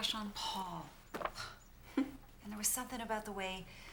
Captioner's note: chuckles